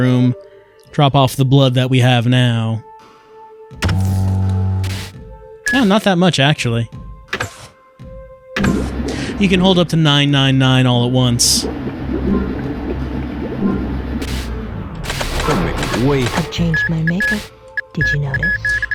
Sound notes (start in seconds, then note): 3.9 low analog humming, brief static; 8.6 thrumming and beeping; 13.7 thrumming gradually stops